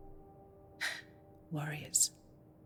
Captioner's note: exhales deeply